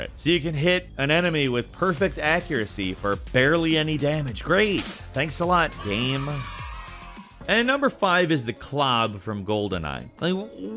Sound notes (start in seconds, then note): 5.4 children cheering